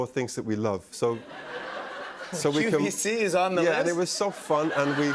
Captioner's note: laughter